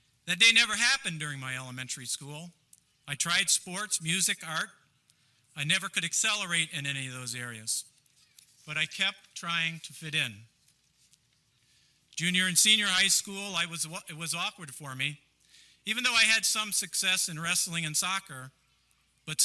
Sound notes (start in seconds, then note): none